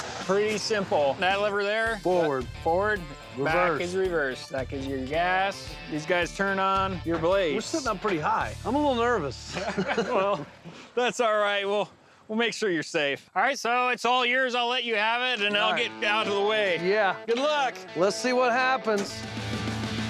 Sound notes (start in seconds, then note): 9.4 laughing